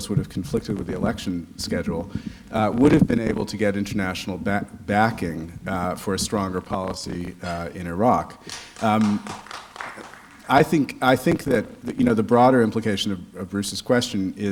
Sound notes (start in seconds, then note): 8.4 clapping